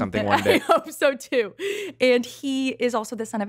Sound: laughs

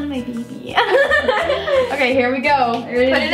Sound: laughs

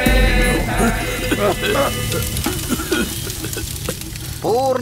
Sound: coughs

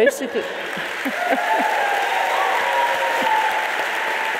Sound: audience cheering

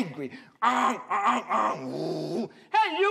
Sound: imitates honking

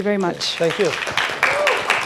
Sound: applause

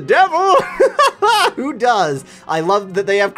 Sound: laughs

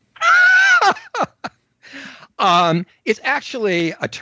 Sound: laughs

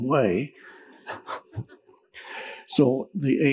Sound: audience chuckling

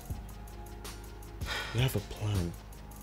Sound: Efosa sighs

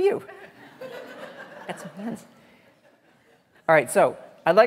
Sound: audience laughing

